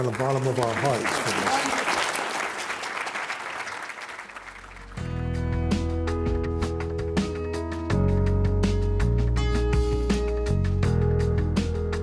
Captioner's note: applause